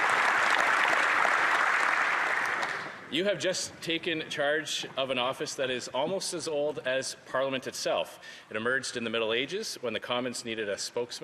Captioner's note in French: applaudissements